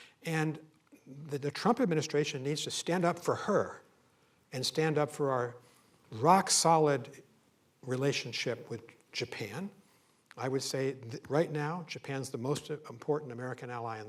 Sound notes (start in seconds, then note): none